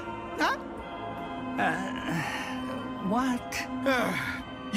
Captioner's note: sighing